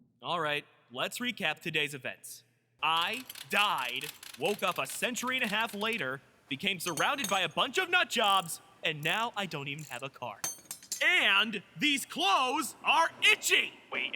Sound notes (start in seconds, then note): 2.8 ratchets